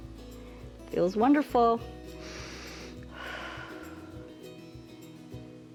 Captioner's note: inhales and exhales